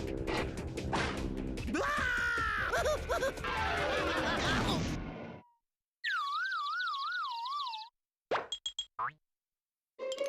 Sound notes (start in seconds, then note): 6.2 birds chirping